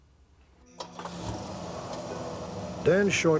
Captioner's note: sound of car starting